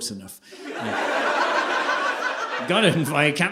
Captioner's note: audience laughing